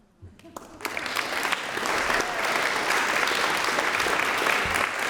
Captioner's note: audience clapping